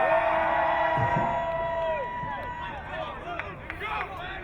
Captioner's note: crowd cheering